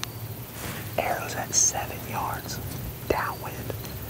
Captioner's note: whispering